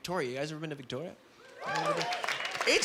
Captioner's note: clapping